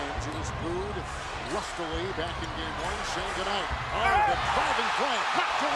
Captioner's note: announcer speaking; audience chanting defense; crowd cheering